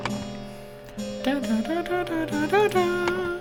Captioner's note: humming